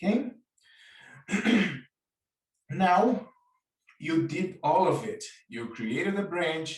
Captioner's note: coughs